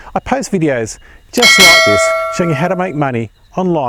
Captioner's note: notification bell rings